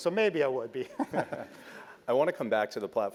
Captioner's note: laugh